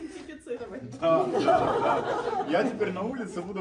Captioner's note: laughter